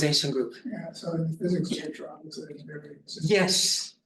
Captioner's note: student faintly speaking